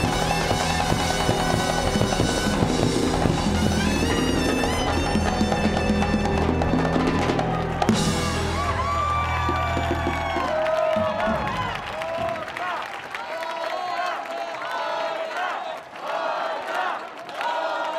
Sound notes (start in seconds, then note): 9.0 audience cheering; 9.0 audience clapping; 13.2 audience chanting in Spanish